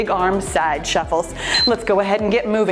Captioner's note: timer beeps